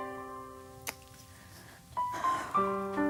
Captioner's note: sighing